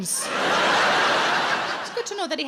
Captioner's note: audience laughs